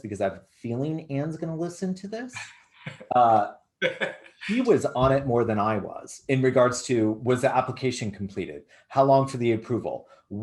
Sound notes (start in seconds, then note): 3.8 laughs